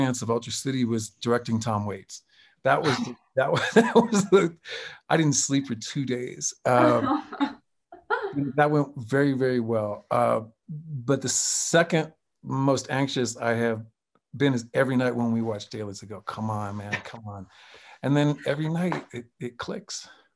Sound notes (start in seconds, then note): 3.4 chuckles